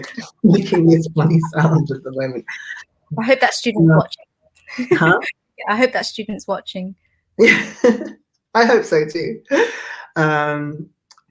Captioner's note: laughs